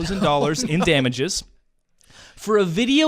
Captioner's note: laughs